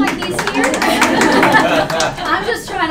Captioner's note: laughter